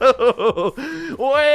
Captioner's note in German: Aufschrei